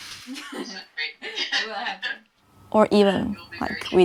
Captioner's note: laughs